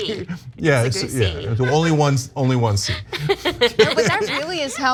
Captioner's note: laugh